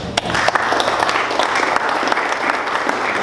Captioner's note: clapping